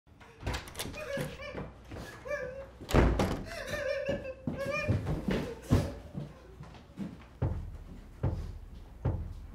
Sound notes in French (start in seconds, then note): 1.4 homme qui pleure